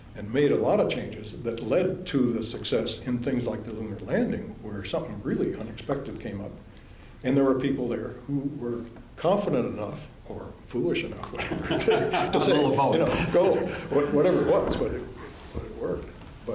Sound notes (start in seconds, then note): 11.3 laughter